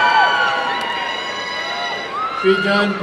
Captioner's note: applause and cheering